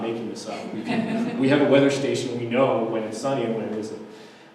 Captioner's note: audience laughter